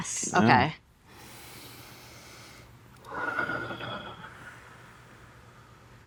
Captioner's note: participants breathe deeply